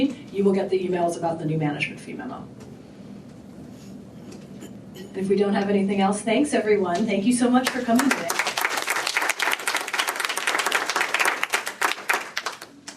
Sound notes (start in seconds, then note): 7.6 applause